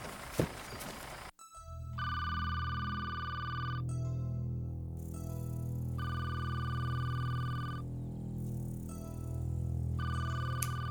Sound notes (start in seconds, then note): 0.2 phone Ringing; 6.0 ringing Continues